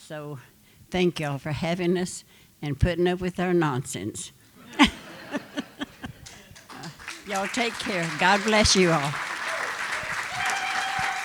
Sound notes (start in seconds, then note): 4.6 laughter; 9.1 applause